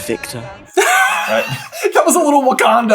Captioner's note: cracks up